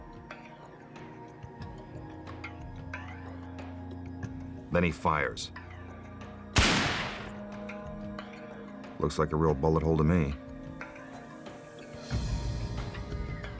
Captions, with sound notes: Then he fires. (gun bangs) Looks like a real bullet hole to me.